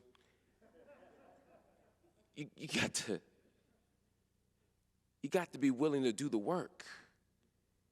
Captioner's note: laughter